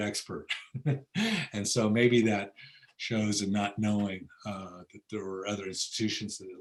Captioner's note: laughs